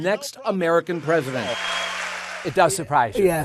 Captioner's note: audience cheering